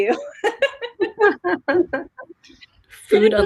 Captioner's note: laughing